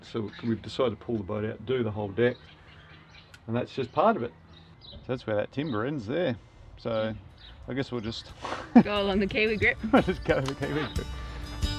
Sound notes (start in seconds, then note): 8.4 laughs